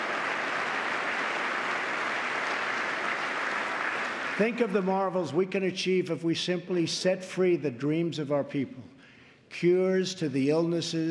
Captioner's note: applause